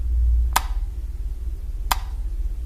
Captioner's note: light switch clicks off; light switch clicks on